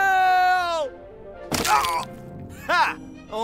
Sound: snapping noises

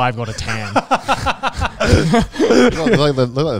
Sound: everyone laughs

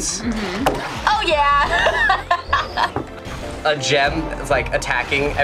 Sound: laughing

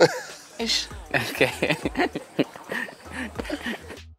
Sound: men laughing

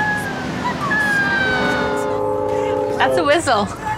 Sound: train horn

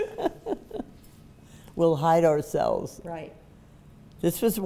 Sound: laughing

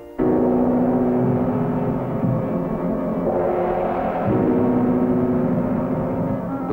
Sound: sound of thunder and ominous-looking sky

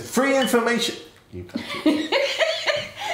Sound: laughs

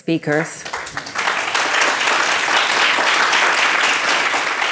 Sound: audience applauds

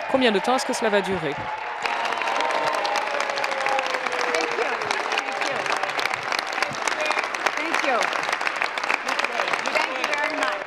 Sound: applause

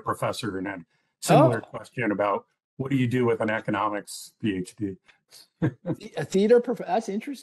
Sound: laughter

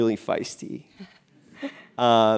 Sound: laugh

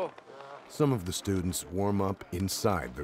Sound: voiceover

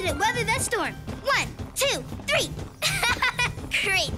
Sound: laughs

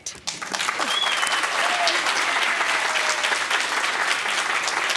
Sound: audience applauding

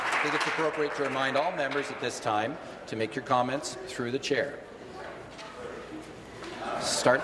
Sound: applause

